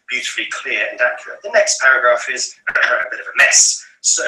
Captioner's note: clears throat